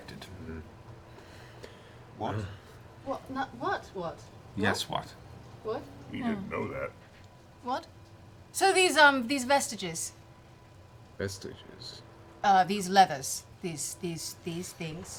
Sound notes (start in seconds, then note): 6.9 mutters